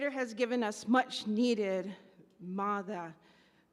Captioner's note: speaks in Native language